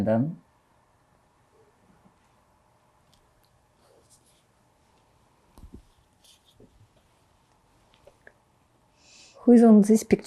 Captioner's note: pauses 8 seconds